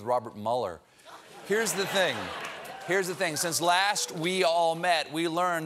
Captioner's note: laughter